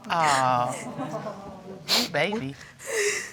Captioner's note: sobbing continues